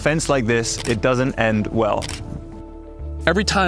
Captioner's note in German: Kamera klickt